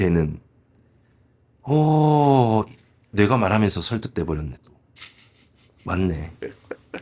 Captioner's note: exclamation